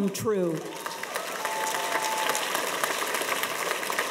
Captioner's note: audience applauds